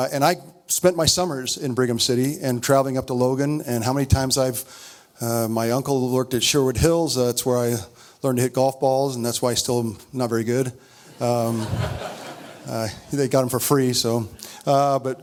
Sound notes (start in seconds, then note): 11.1 audience laughs